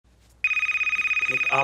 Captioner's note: phone rings